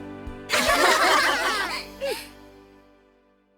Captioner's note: laugh